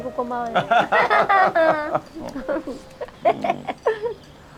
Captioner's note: both laughing